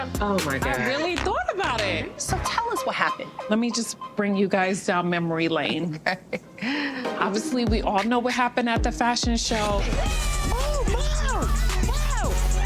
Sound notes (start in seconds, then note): 5.5 laughs